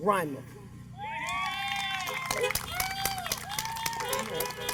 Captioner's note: applause